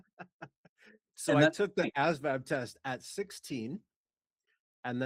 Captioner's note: laughing